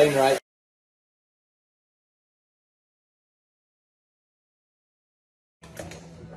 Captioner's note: silence